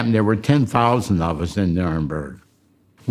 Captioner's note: none